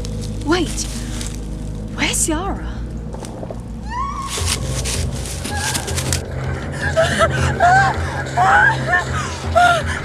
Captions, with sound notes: Wait where’s Ciara? *Ciara screams* *intense whispering*